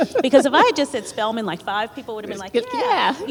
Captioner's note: laughter